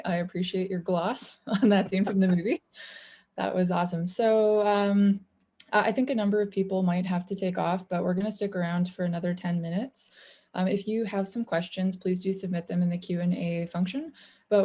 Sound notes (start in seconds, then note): 1.4 chuckling; 1.5 laughs